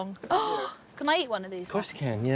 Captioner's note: gasps